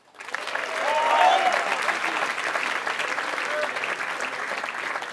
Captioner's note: applause